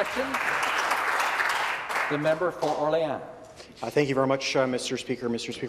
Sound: some Applause

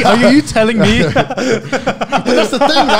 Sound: group laughs

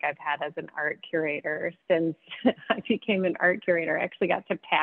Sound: laughs

